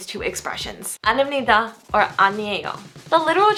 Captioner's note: foreign language